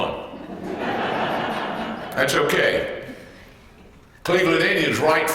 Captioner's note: laugh